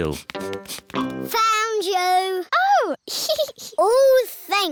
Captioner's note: giggles